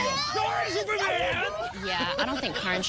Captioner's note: cheering